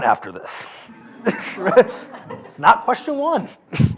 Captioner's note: laughter